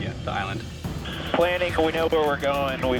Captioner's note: man Over Radio